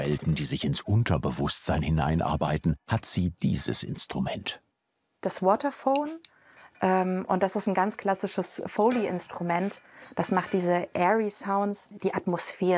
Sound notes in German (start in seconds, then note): none